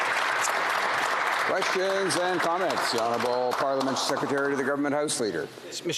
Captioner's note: applause